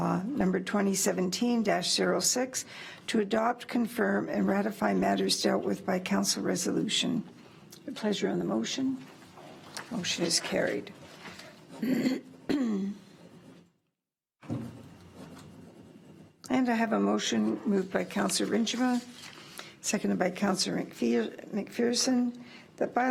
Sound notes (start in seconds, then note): 12.4 clears throat